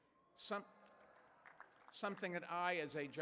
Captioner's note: applause